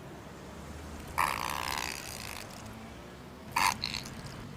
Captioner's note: splatting sound of Ketchup